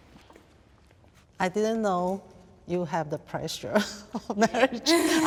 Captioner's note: laughs